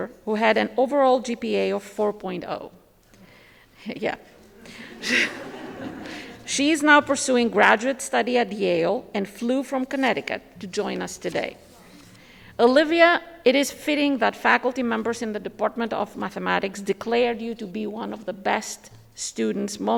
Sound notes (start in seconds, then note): 4.4 audience chuckle; 4.5 chuckles